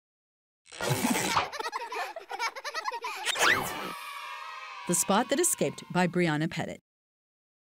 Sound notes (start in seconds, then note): 1.0 children giggling; 3.1 children cheering